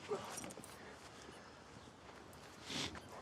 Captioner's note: Abe groans; Abe sniffles